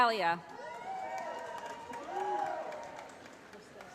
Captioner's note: cheering